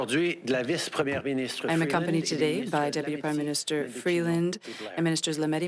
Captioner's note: speaking French